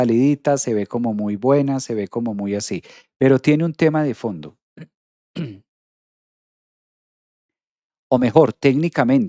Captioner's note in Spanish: carraspeo